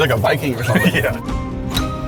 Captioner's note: laughs